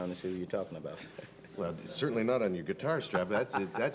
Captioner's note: laughing